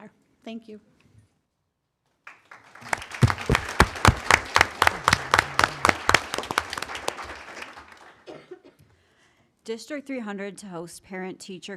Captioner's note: applause